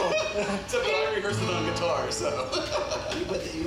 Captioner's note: laughs; laughs